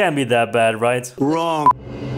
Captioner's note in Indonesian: Trump sound